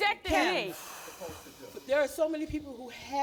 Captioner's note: sighing